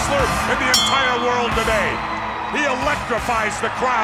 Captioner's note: bell ringing